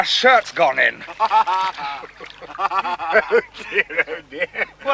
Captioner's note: laughing